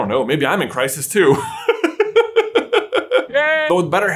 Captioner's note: sob